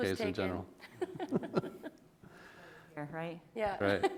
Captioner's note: people laughing